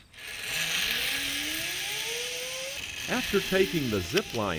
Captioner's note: zip line whooshing